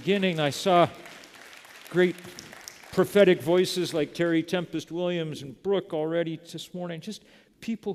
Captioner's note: applause